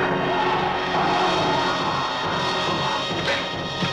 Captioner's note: Lobo screaming; suspenseful music